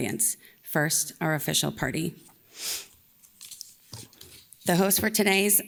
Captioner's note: inhales